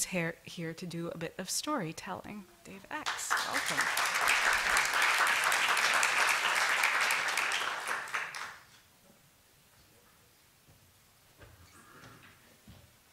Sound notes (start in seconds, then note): 3.0 applause